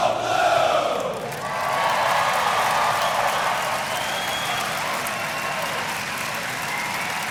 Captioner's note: audience cheering; audience applauding